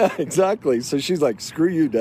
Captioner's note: laughs